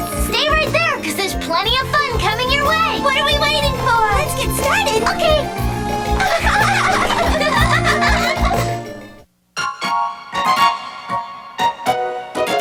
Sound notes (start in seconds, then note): 6.0 giggling; 9.6 upbeat music